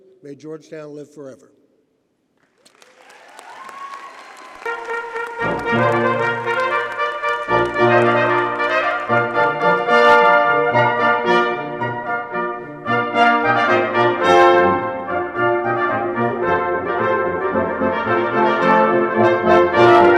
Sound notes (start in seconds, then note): 3.1 audience cheers and applauds; 5.2 classical music plays